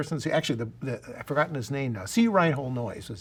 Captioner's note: murmurs